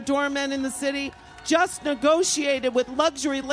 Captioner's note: cheers and applause